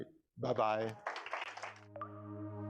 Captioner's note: applause